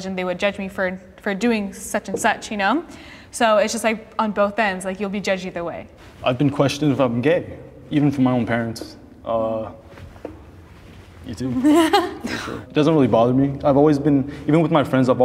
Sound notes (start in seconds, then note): 11.6 laughing